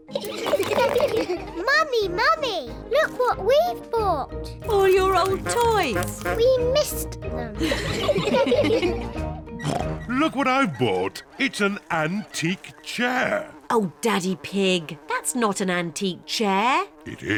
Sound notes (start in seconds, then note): 0.2 all laugh; 7.6 all laugh; 9.7 oinks; 12.8 flies buzzing